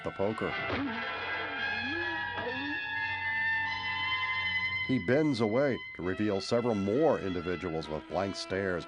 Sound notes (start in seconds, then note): 1.4 groaning